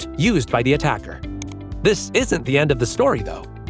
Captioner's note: mouse clicking